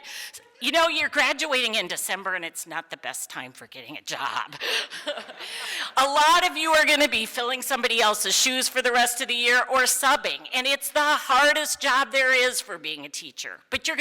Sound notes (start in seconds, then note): 4.5 laughs